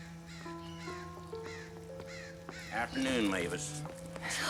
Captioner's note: gentle orchestral music; crow cawing